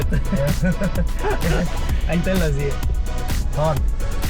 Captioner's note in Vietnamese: tiếng cười